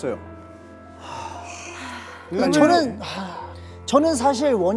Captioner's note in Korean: 한숨소리